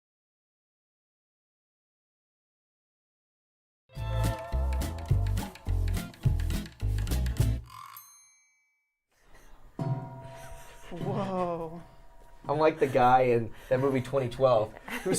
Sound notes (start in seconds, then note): 3.9 upbeat music; 9.8 water bottle clanging